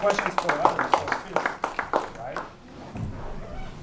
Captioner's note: applause